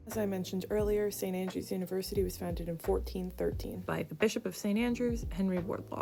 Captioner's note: none